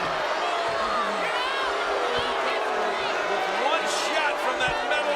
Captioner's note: audience jeering